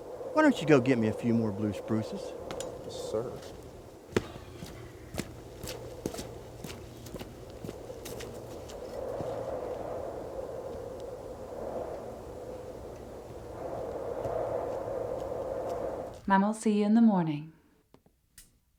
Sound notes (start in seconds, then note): 4.1 footsteps crunching; 4.8 wind howling; 13.1 wind continues howling; 18.5 switch clicks